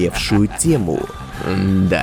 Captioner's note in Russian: смешок